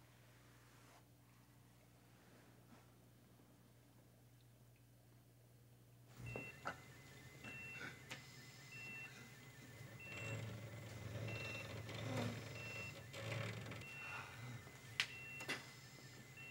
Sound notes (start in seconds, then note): 6.2 monitors beeping; 6.3 Donald gasping